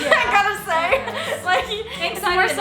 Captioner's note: laughs